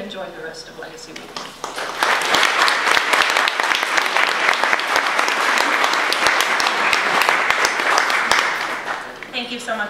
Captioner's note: audience applause